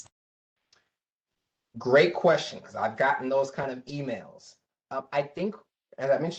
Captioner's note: professor speaking